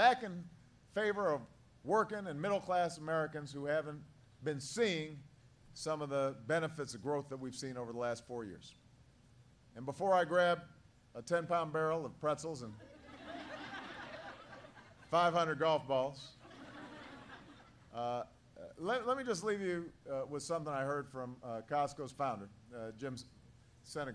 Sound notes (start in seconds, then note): 12.7 laughter